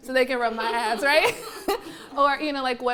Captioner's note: laughing